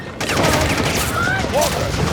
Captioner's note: gunshots whistle